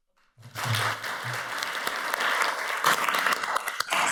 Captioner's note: audience applauds